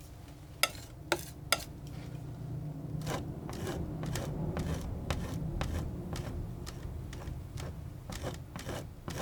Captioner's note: tapping